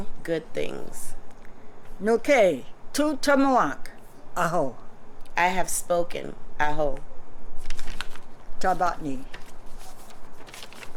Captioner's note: non-english speech